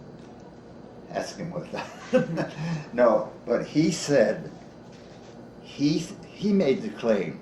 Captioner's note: chuckles